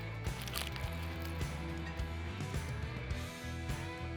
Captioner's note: taco crackles